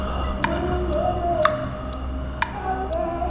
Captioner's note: clock ticking